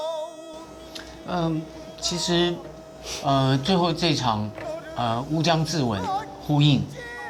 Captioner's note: speaking in Chinese